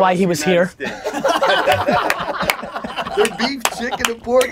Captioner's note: group laughter